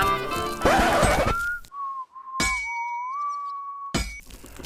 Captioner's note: out of tune whistling